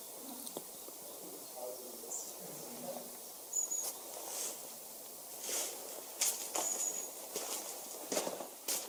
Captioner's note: birds in distance